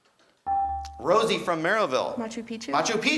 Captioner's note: beeping